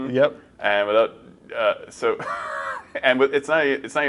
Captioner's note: chuckles